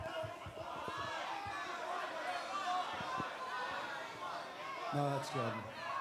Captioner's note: crowd chatter